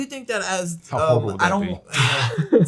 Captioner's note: laughs